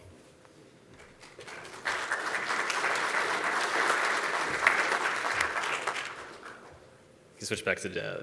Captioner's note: applause